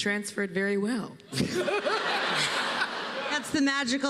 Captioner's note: laughter